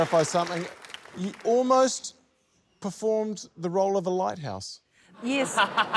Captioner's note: laughter